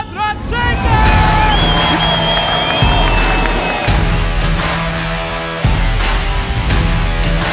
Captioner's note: upbeat music; crowd cheering